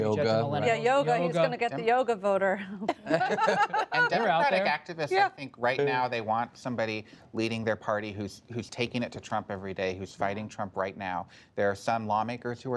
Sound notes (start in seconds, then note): 2.6 laughter